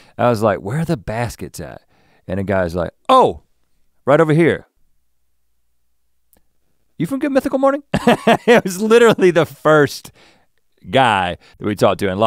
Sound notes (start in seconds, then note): 7.9 chuckles